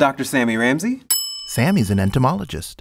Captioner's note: bell rings